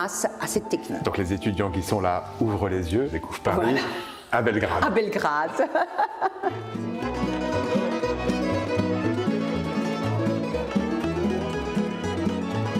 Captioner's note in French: rires